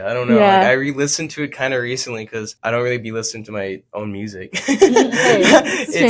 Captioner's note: laughs